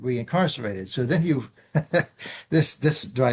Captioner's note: laughs